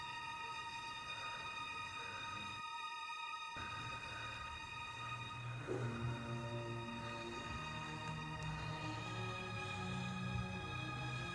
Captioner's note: labored breathing